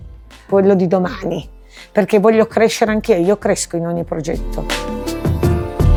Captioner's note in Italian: sbuffare